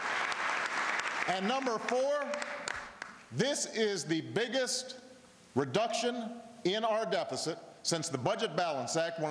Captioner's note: applause